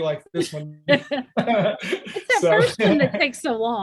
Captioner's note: laughter